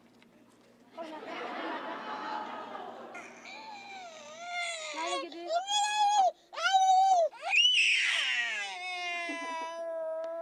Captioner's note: laugh